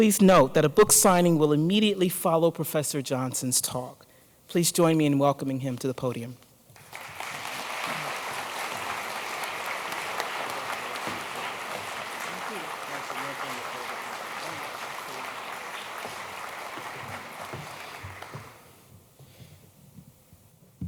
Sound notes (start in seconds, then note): 12.7 applause